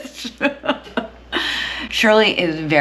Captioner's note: laughing